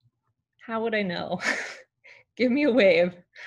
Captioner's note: laughs